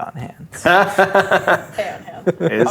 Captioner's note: laughing